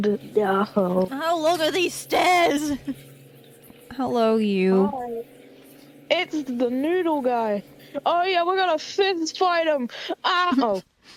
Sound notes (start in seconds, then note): 8.0 whispering Fades Out